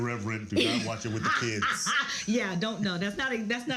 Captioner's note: laughs